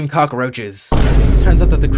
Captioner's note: boom sound effect